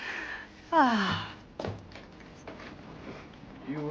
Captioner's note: sighs